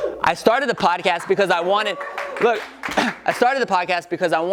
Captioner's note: audience whoops, claps lightly